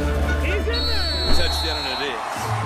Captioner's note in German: Trillerpfiff